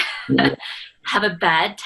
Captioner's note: laughing